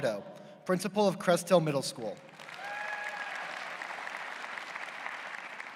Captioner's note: applause